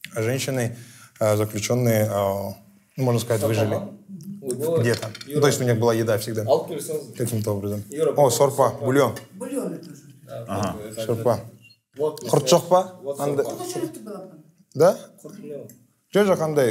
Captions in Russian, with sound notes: женщины-заключенные, можно сказать, выжили. То есть у них была еда всегда каким-то образом. О, бульон! — Бульон тоже. — Ага. *говорят на казахском* — Да?